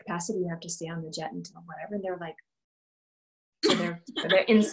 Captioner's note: laughter